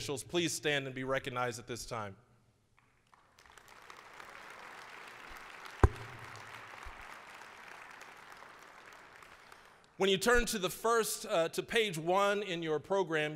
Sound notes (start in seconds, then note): 3.0 applause